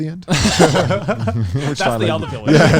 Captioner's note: all laughing